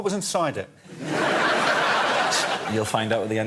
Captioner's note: audience laughing